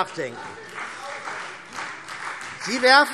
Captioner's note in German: Vereinzelter Beifall CDU und Freie Demokraten